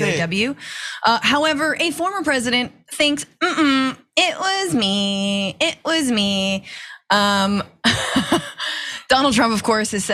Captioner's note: laugh